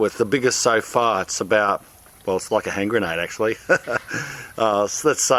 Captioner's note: laughs